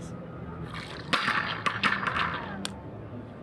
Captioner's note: balls bounce